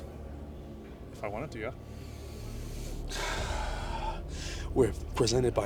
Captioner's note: Intimidating heavy breathing CIA technique